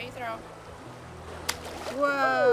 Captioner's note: splash